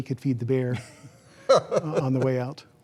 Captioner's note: laughter